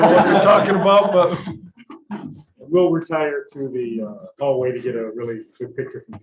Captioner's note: laughter